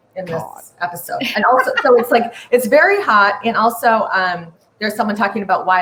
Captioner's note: laughs